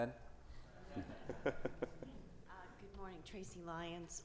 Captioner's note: everyone laughing